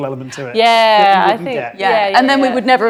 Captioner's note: overlapping chattering